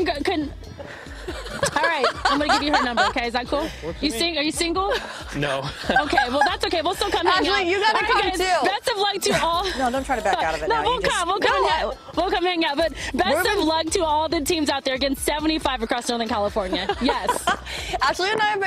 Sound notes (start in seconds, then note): 9.2 laughter